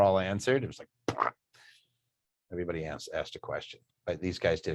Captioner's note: imitates splat